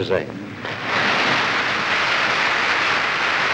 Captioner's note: applause